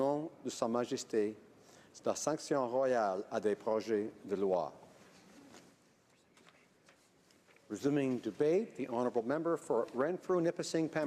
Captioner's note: speaking French